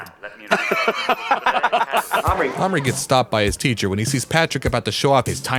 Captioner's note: laughter